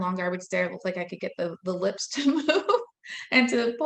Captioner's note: laughing